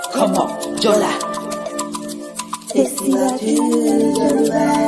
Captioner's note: foreign language